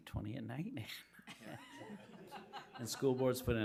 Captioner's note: people laughing